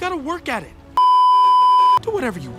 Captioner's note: beeeeeep